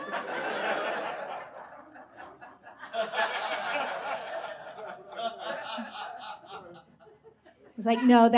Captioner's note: audience laughs